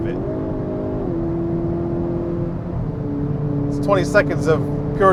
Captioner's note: motor roaring